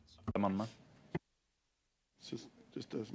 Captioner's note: speaking French